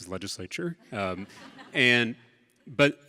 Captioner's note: audience laughs